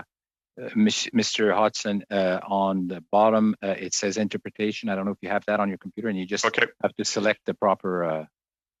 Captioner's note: speaking French